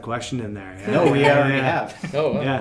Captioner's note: laughing